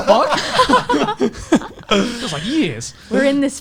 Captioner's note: laughs